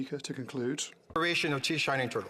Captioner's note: speaking FRENCH